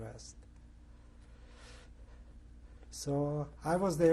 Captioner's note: pauses for 3 seconds